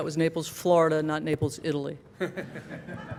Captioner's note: laughter